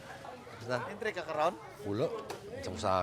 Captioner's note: speaks in local dialect